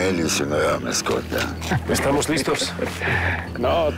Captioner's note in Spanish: Risas